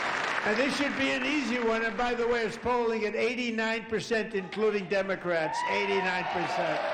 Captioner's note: applause